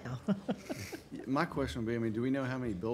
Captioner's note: laughing